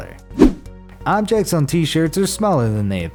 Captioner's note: air whooshes